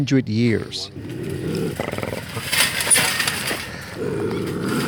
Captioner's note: bobcat growling